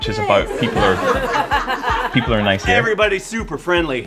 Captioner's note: laughter